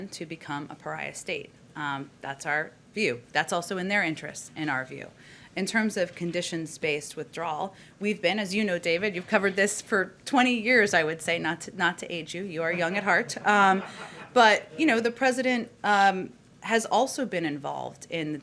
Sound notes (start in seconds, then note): 12.6 laughter